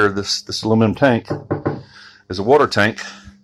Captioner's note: knock, knock, knock echos empty